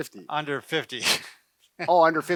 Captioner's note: chuckles